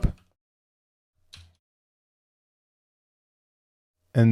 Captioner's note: mouse clicking